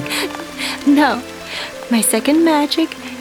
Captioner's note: chuckles